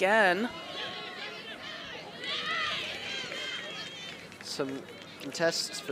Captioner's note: shouting